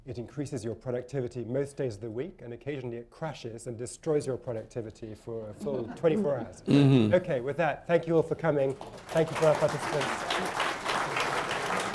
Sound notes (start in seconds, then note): 5.6 laughter; 8.6 applause